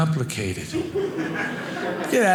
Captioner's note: audience laughing